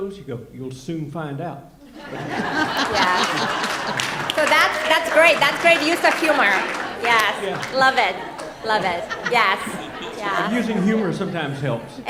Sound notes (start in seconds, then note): 2.2 audience laughing; 3.7 audience clapping